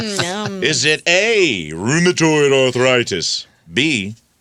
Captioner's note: laughing